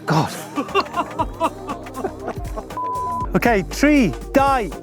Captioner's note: laughing